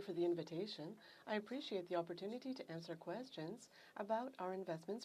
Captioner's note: speaking French